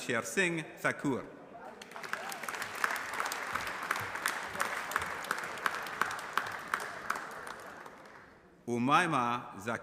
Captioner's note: applause